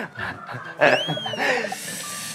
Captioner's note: laughing